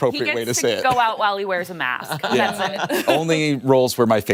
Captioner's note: laughter